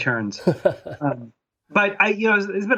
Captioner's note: laughing